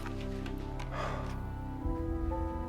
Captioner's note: sighs